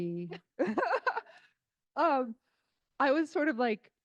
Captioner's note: crowd laughing